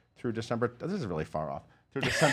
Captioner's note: laughs